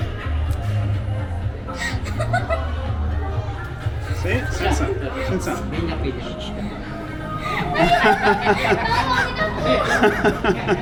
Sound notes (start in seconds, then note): 1.7 she laughs; 9.0 laughing